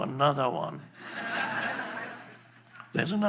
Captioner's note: audience laughing